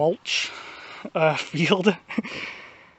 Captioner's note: chuckles